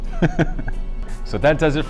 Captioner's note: laughs